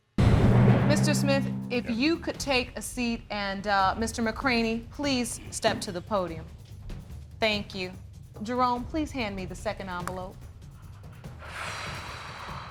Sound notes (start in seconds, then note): 11.4 sighs